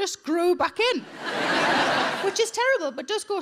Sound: audience laughing

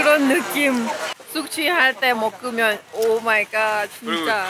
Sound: laughing

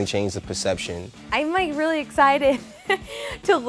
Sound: laughs

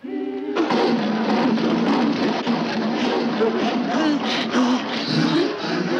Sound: saw scratching; ladies mimic saw

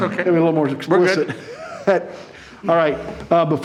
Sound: laughing

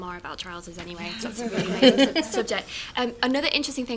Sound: laughter

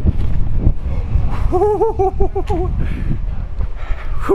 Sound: laughs

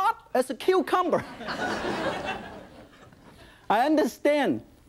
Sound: audience laughing

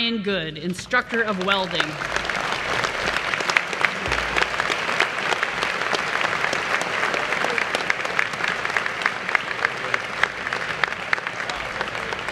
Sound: applause

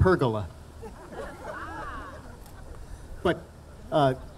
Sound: audience laughing

